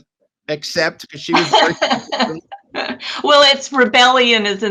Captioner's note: laughs